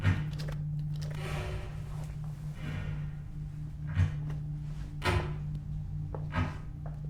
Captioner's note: gentle, ominous music; clattering